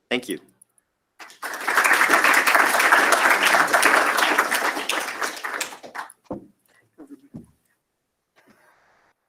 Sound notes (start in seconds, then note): 1.2 applause